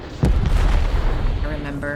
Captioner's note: bombs exploding